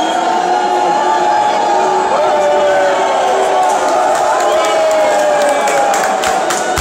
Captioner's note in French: huées